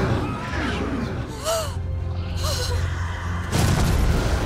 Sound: gasp

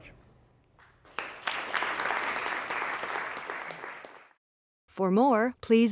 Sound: applause

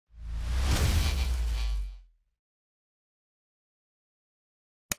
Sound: electricity crackling; mouse clicks

